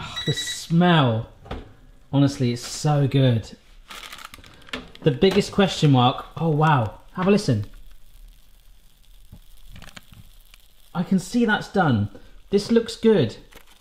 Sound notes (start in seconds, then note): 8.6 baking sound